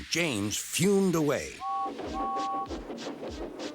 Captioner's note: whistles